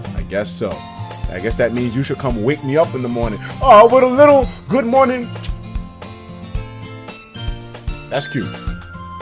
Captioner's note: smooch